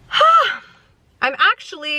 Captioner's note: sighs